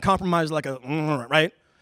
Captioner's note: mumbling